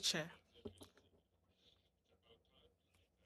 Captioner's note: speaking French